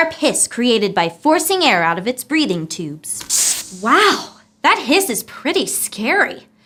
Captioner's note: hissing sound